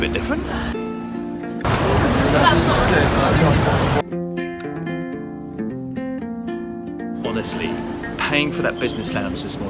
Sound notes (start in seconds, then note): 1.6 people chattering